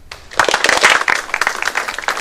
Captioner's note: applause